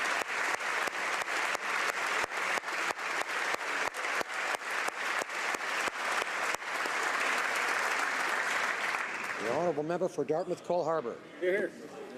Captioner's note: applause